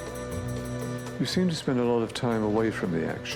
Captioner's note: voiceover